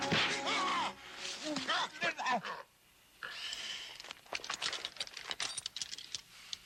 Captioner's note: dramatic music; club thudding; man yelling